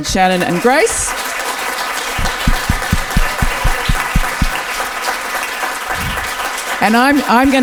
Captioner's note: audience applause can be heard